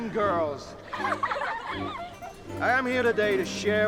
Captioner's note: giggles